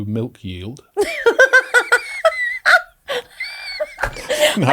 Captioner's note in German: lacht